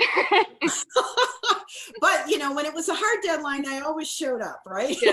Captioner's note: laughs